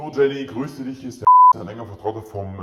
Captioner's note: beep